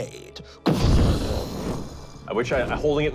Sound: explosion

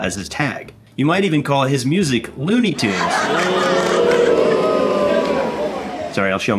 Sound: fake laugh and booing track

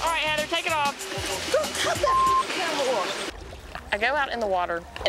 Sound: beep

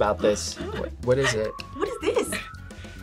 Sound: laughs

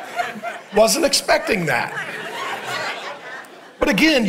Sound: congregation laughing

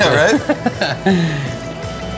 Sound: laughs; upbeat music

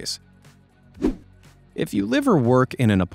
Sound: swoosh

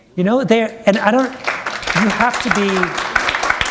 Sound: applause

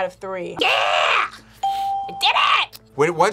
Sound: bell rings

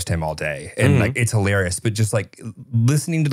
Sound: laughing

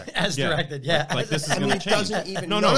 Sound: laughs

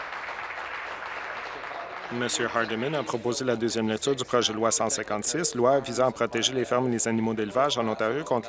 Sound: applause

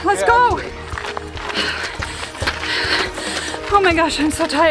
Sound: heavy breathing

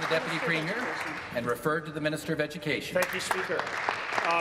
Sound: applause

